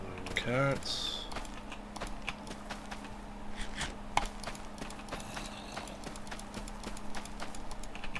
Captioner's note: typing